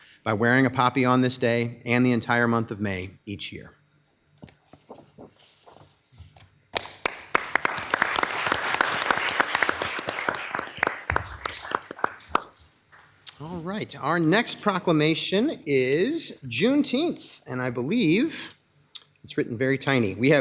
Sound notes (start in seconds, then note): 6.7 all applauding